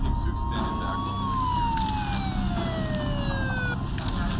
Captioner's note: sirens